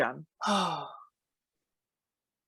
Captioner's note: sighs